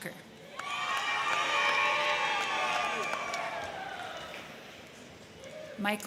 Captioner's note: crowd cheering; crowd clapping